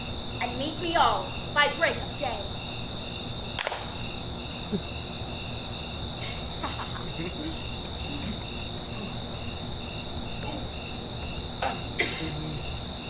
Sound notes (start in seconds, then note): 3.6 hands clap; 6.1 Titania and Oberon laugh